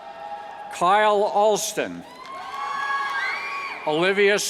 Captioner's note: cheers